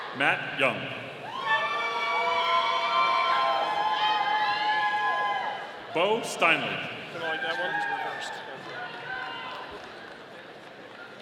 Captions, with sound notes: Matt Young. (audience cheering) Beau Steinle. (audience applauding)